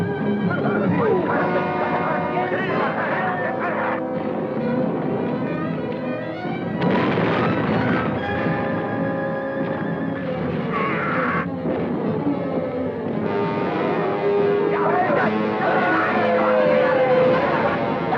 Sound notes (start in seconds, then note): 1.0 men clamoring; 6.7 grenade explodes; 10.7 adventurous orchestral music; 14.6 men clamoring